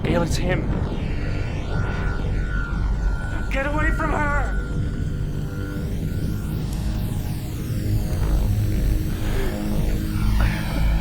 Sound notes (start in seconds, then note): 2.7 wind rushing; 5.7 sizzling